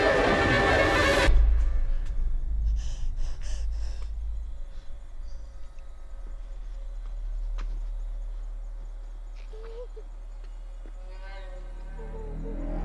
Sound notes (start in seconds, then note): 9.4 soft cries